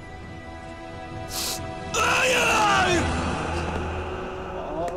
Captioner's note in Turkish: İç çeker